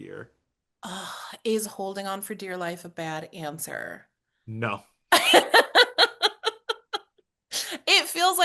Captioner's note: laughs